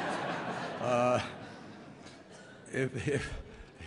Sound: laughter

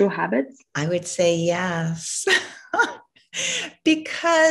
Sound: laughs

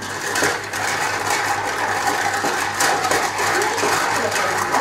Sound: stirs cocktail

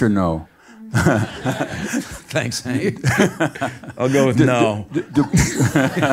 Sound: laugh

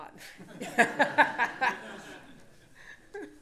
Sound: laughter

